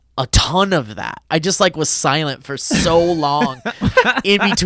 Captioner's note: laughs